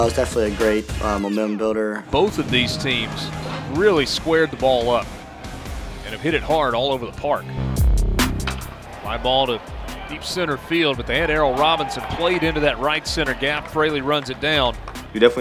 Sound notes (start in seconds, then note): 2.3 voiceover